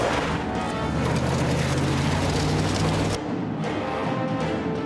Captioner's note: gunshot